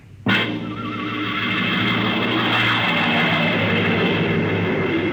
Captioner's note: train whistle blowing